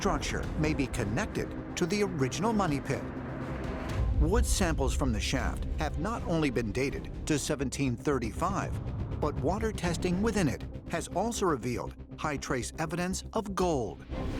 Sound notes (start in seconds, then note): none